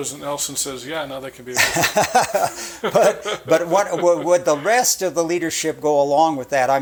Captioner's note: chuckling